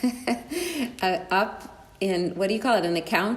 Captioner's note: laughs